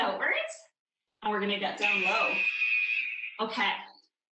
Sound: alarm blares

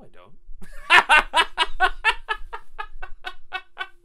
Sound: laughter

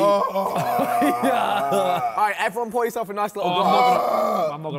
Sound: man groans

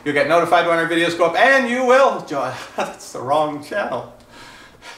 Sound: laughs

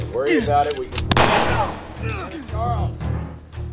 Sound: gun firing

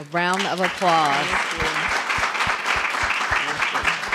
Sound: applause

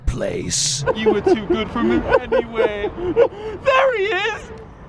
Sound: crying

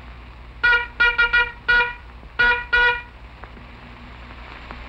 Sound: honking

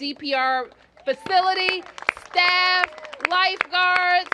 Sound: cheers and applause

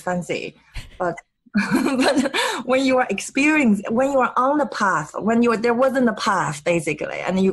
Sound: laughs

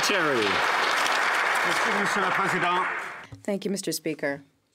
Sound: some Applause

